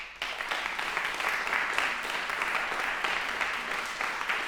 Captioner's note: applause